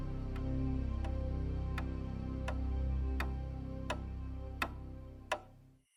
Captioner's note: tapping; upbeat music